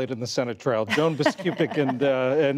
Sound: laughter

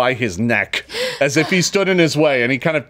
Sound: player gasps

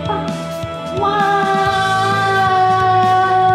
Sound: children's voices screaming

